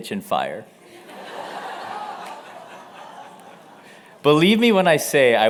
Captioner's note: laughter